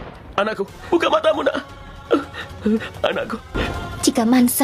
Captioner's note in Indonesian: tertawa